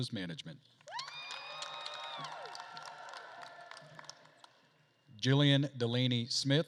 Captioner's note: attendees cheering and applauding